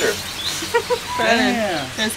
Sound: laughing

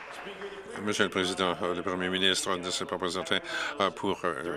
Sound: applause

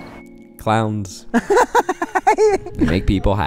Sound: laughs

